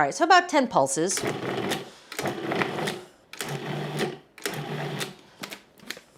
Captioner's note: food processor whirring